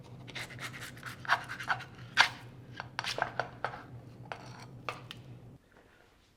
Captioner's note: spatula scraping against pan